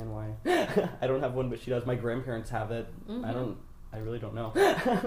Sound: laughs

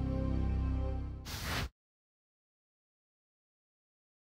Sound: whooshes

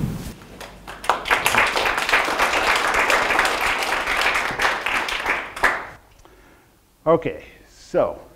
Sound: audience applause

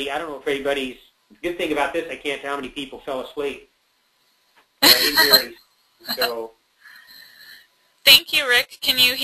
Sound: laughing

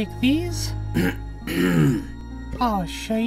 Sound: clears throat

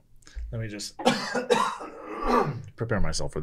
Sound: coughs

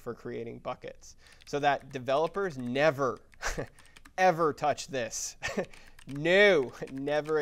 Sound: laugh

